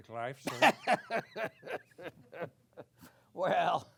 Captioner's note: laughter